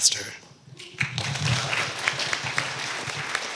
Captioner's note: applause